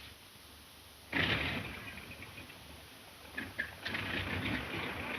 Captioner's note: airplane engine revving